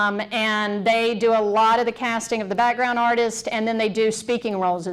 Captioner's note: none